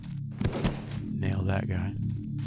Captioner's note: whispers